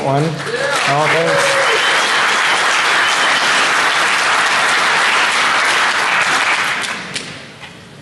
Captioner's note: applause